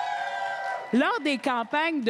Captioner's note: cris et applaudissements